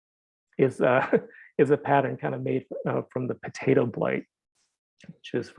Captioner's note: chuckles